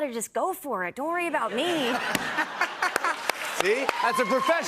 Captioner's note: laughter